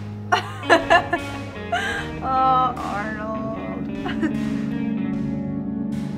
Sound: laughs

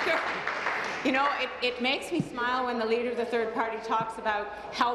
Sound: applause

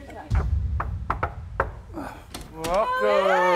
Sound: door knocking

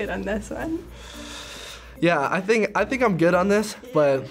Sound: inhales shakily

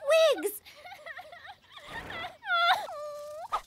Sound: sobbing

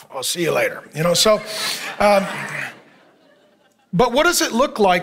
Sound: congregation laughing

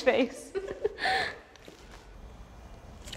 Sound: laughing

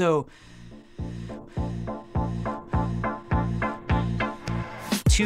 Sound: breathing Intensifies

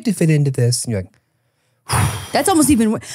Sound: gasps

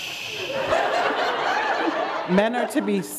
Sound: laughter

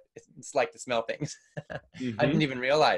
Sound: laughs

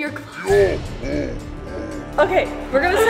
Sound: Santa growls

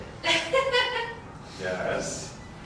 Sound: laughing

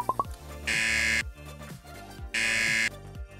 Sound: buzzer

